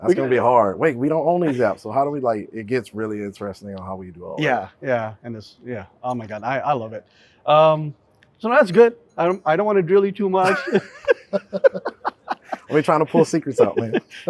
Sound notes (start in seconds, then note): 10.4 both laughing